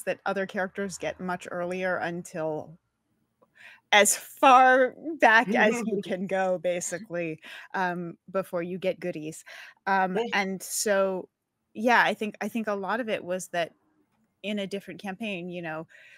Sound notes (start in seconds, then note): 5.4 laughs; 10.2 chuckles